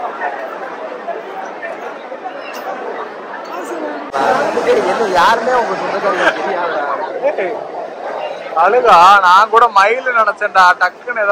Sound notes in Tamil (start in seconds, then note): none